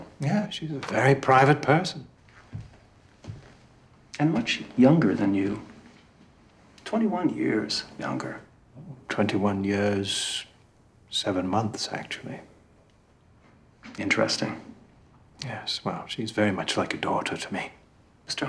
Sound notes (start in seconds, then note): none